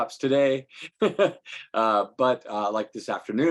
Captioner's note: laughing